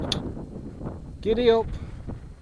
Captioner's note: shouts at horses